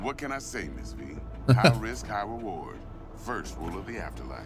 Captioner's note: laughs